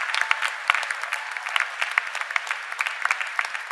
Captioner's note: cheers and applause